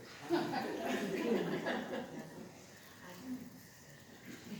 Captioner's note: laughter